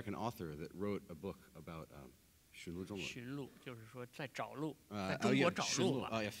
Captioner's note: speaking in Chinese; speaking in Chinese